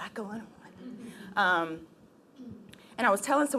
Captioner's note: laughing